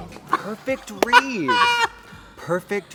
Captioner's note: Trixie laughs